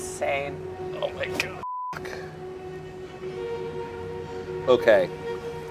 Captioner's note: beep